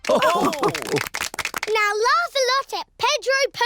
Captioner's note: all laugh